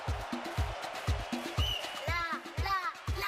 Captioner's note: whistle